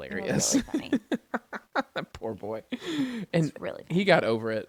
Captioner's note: laughs